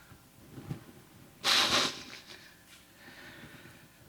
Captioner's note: sniffling